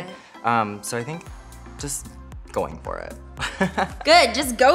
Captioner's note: chuckles